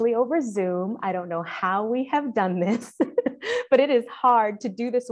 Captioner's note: chuckling